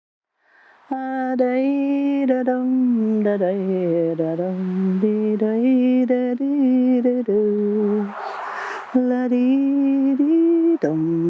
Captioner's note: humming